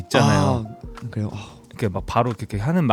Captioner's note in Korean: 감탄